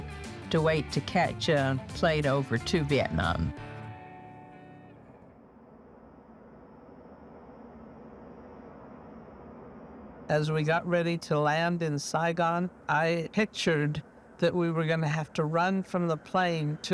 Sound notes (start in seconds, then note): 5.3 engine revving